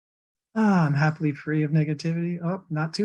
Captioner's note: sighs